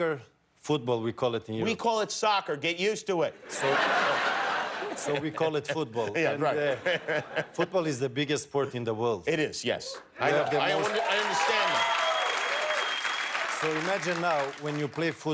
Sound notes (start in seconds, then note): 6.5 laughter